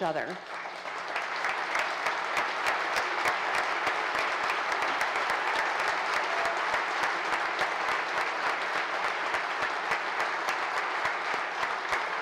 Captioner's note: applause